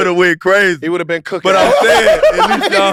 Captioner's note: laughs